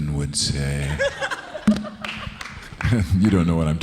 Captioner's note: audience laughing